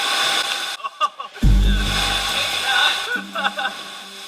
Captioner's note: laughter